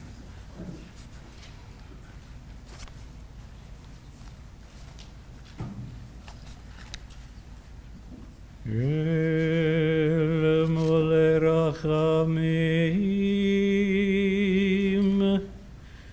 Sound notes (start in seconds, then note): 3.9 reciting of the Memorial Prayer for Six Million in Hebrew